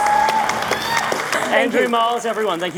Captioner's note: audience cheering